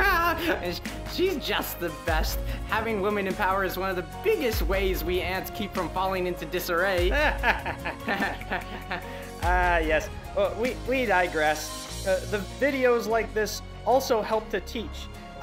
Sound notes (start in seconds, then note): 7.1 ants laugh together